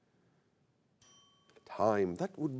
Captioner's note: bell chimes